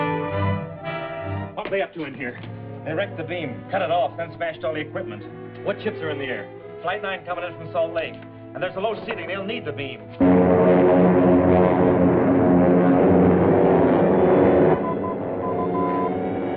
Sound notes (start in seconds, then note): 10.3 suspenseful music; 14.8 beeping